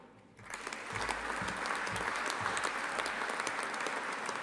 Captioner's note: audience applauding